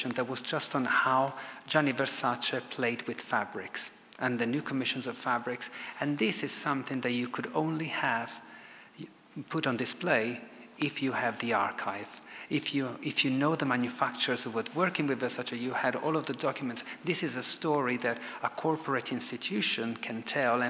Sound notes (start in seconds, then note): none